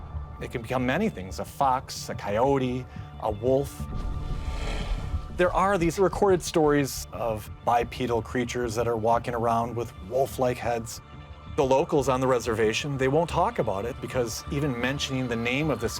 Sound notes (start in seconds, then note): 3.6 snarling